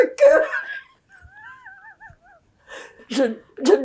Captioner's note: laughing